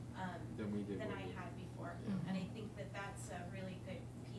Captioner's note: background Chatter